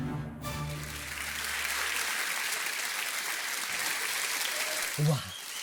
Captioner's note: audience applauding